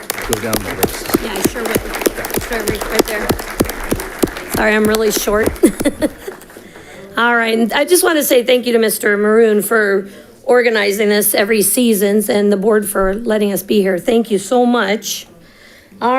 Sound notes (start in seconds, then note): 0.8 audience clapping; 5.3 laughs